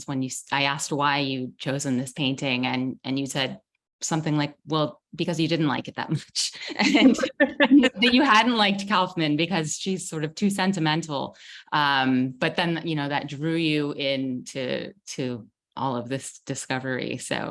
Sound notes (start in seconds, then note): 6.7 both laughing